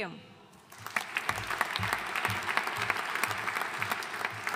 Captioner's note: audience applauding